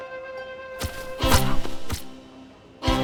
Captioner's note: knife stabs